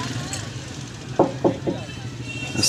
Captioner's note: knocking door sound